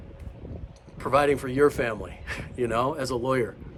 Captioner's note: chuckles